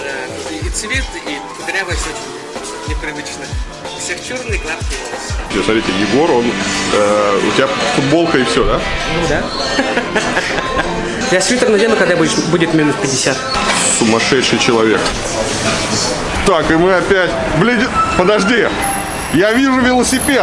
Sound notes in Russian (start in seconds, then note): 9.6 смех